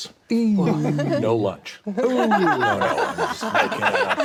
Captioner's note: all laugh